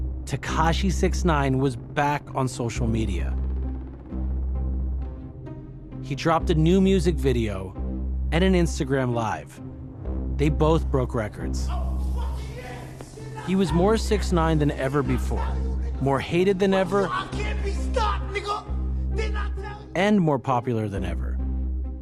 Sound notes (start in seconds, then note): 12.3 shouting